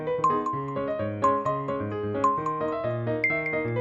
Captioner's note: timer beeping